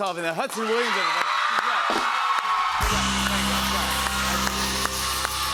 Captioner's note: cheers and applause